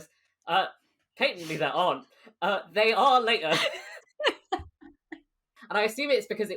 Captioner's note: both laugh